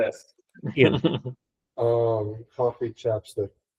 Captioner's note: colleague laughing